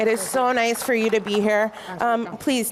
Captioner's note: applause